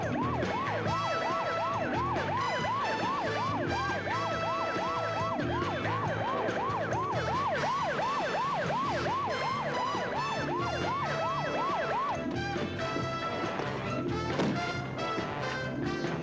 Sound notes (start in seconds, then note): 0.1 siren